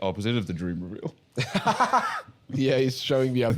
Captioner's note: laughs